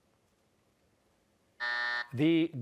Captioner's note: buzzer